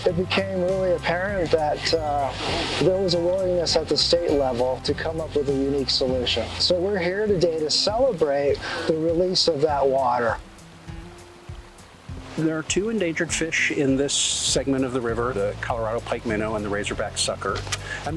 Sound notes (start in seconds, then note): 10.8 gentle music; 10.8 river flowing